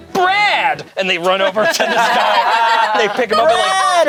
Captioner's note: group laughs